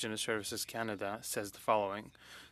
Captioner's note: speaking French